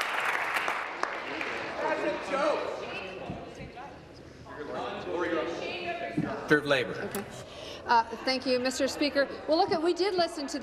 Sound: applause

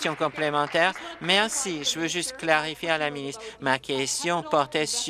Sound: applause

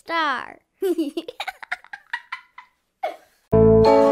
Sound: child giggling

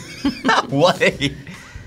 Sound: graphic popping; laughing

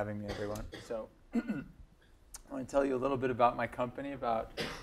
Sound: cough

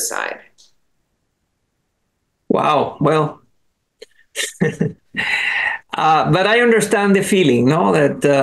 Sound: laughs

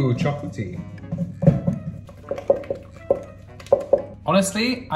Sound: spoon tapping

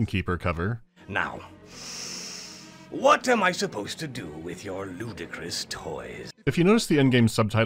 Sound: breathes in

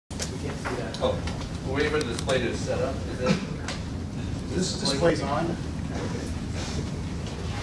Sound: background noise as people set-up

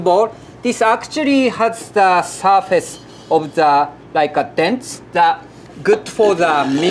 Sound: surikogi grinding

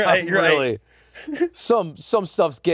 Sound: laughs

